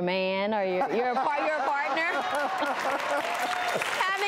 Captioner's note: audience clapping